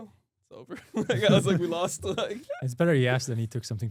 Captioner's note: laughs